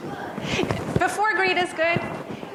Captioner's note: audience speaking off microphone